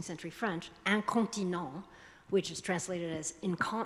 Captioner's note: speaking foreign language